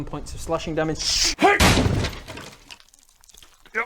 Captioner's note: smash